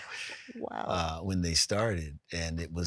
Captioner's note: laughs